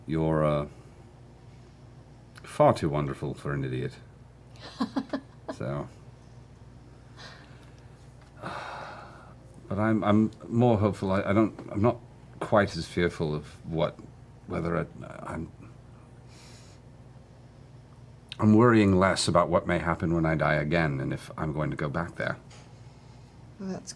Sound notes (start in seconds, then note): 4.6 laughs; 8.3 sighs